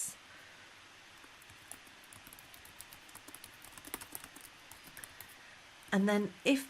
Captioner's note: typing sounds